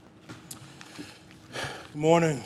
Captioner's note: sighs